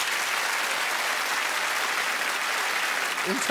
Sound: crowd applauds and cheers

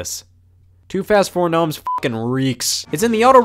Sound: beep

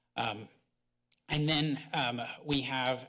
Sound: none

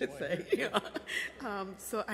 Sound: laughing

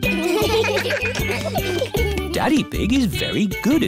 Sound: steel band; laughter

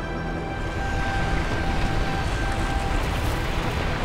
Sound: crackling

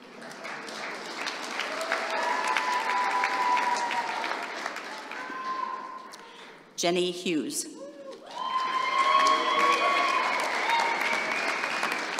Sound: applause

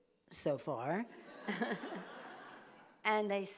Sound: everyone laughs

